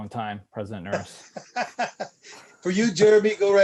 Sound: laughter

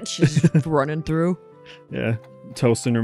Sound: chuckles

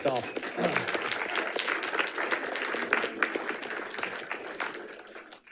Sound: audience applauding

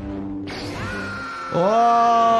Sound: Luke screaming

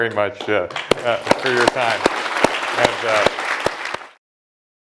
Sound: applause

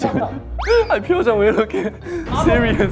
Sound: breathless

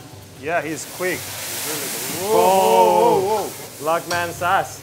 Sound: sizzling; cheering

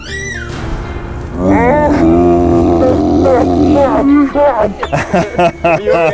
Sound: laughing; screaming

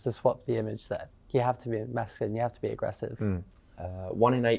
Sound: hmm

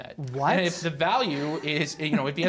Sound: laughter

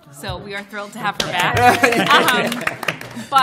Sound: applause

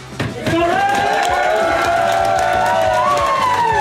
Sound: crowd cheering

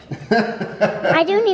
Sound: laughter

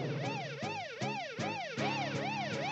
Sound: siren blaring

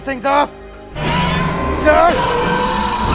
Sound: Scorpius roaring

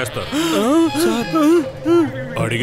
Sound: gasps

